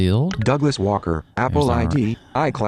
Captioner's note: electronic Voice